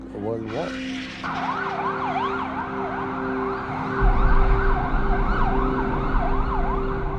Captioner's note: gentle music; sirens sounding